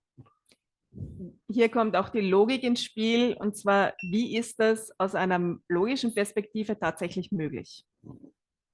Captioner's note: German live translation